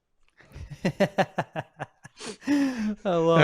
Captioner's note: laughs